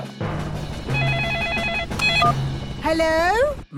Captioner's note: phone ringing; phone beeping